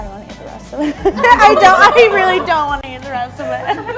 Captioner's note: laughing